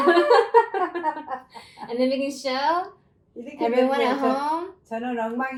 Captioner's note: lots of laughter!!!!